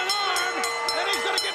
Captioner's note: bell ringing